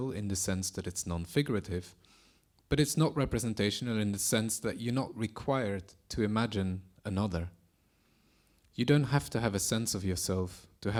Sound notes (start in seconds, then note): none